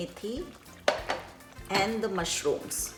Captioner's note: dishes clinking